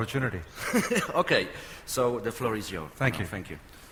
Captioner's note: laughs